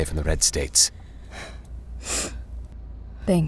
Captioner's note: Emily sniffles